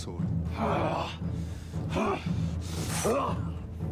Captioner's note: Volnard grunts